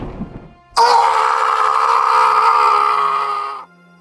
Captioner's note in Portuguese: trovão; grito